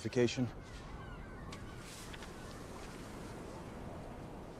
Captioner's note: birds Chirping